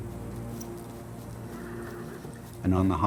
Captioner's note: horse neighing